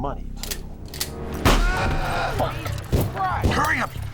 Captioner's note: gunshots